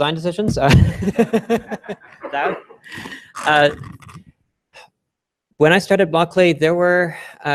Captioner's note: laughter